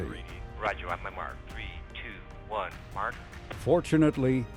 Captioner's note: chatter on radio